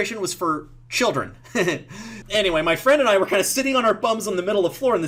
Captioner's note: laughs